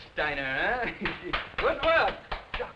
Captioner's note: clapping